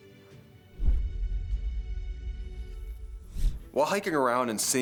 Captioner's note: logo whooshes